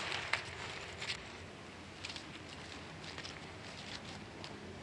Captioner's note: footsteps on the grass